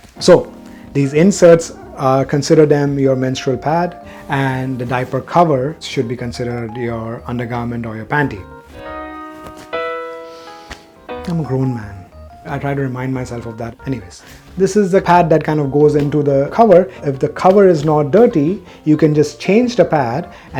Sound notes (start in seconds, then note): 8.6 cloth smacking; 9.2 melancholy guitar music